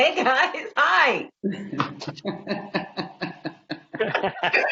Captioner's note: laughing